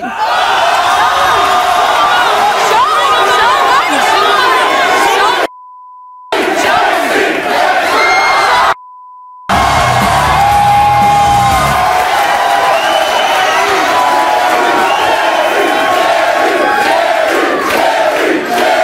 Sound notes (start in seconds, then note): 7.1 audience cheering